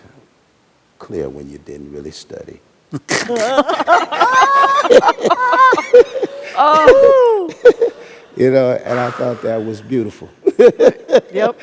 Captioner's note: laughter